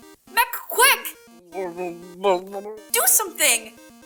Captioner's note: gurgling sounds